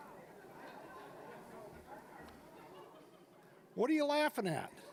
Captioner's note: scattered laughing